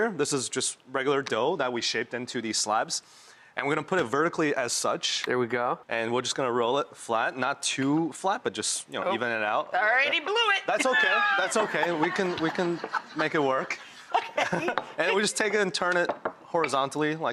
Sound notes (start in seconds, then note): 13.8 audience laughing